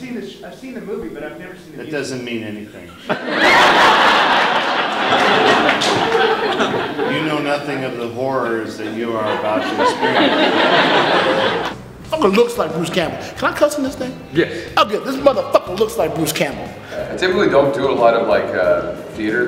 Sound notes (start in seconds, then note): 3.4 laughter